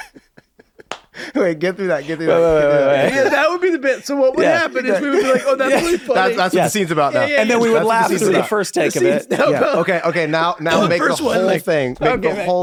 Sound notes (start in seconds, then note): 0.1 group laughing; 6.0 overlapping chatter